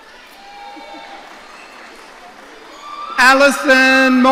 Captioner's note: audience cheering